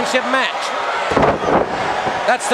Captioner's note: wrestlers thudding on ring